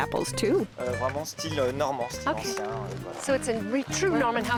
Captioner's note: speaking French